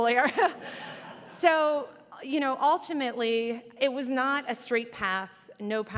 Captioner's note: laughter